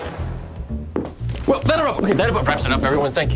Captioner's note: footsteps